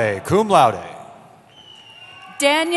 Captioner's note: cheering